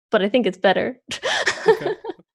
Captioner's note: laughs